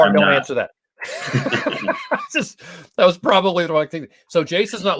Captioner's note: laughter